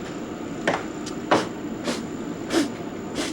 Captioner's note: blowing air